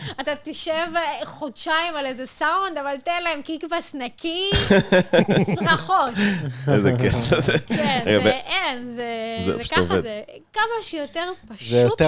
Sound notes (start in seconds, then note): 4.5 laughter